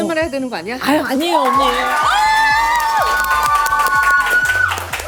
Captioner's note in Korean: 격한 환호